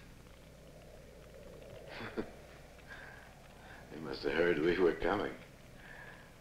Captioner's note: chuckling